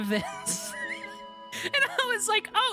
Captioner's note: wheeze